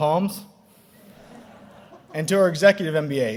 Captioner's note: audience laughing